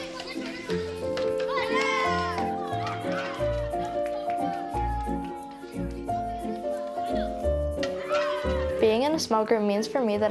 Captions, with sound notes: (everyone cheers) (soft fair music) Being in a small group, means for me,